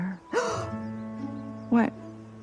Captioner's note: gasps